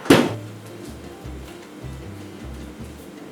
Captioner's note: birds chirping